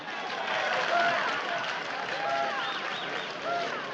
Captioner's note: applauses